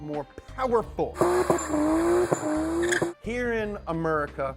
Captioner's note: car fires engine